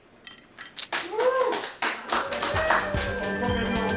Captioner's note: crowd applauding